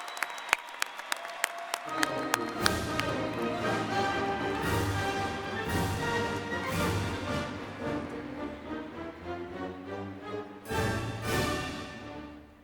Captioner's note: applause